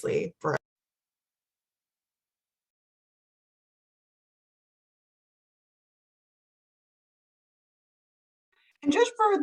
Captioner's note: silence